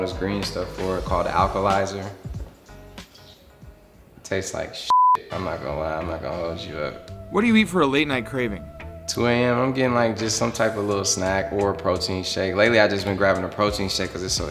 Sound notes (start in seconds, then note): 4.9 beep